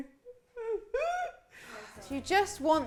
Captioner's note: laughs